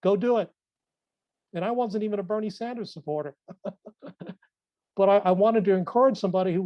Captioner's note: laughs